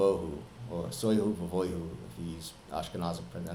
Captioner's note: speaking with an Ashkenazi dialect